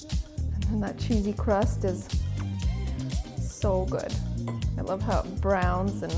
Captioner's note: smacks lips